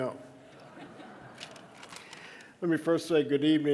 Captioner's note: audience laughing